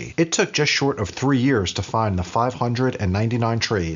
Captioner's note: none